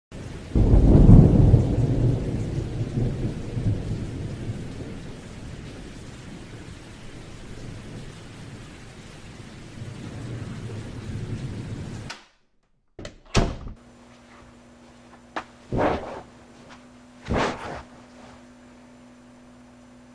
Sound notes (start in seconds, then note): 0.1 thunderstorm and rainfall sound effect; 12.9 opening and closing door sound effect; 17.1 sitting on couch sound effect